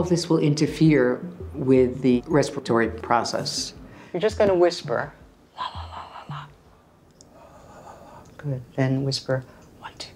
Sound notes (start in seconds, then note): 5.1 whispering; 8.1 whispering